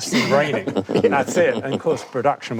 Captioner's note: panel laughs